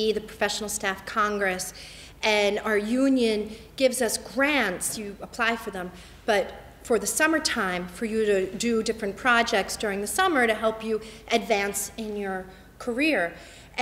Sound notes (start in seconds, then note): none